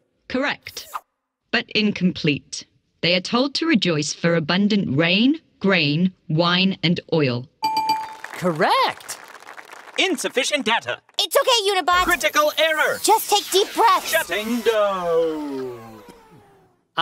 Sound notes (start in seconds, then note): 7.6 bell; 7.7 applause